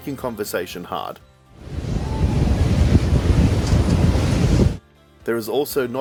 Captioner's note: windy noise example